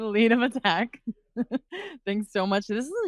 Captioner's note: chuckling